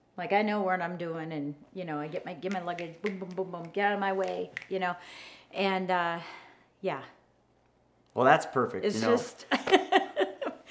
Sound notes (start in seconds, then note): 4.1 snaps; 9.6 laughs